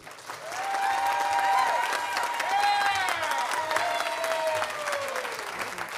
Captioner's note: audience applauding and cheering